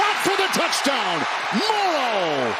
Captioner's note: applause; cheering and applause